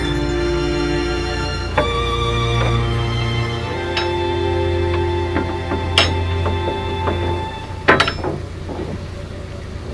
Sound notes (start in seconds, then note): 1.1 knocking